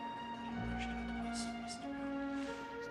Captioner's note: Berbisik